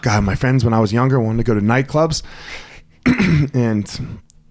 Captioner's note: clears throat